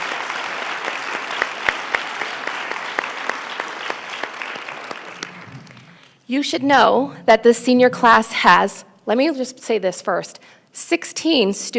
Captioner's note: applause